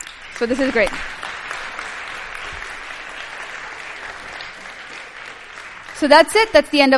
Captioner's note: applause